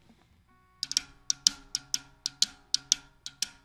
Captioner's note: tapping